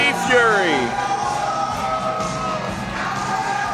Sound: audience cheers; rock music playing

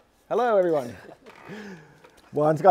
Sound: laughter

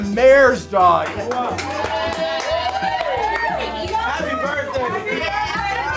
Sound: group cheering

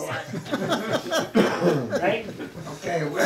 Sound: audience laughing

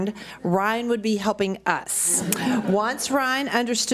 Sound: audience laughs

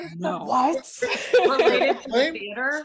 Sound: laughing

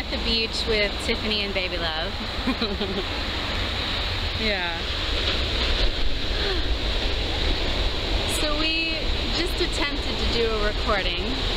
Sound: chuckles

